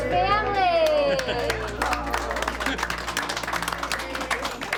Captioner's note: applause